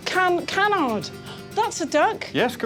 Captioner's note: gasps